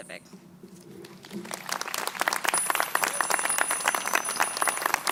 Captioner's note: crowd applauding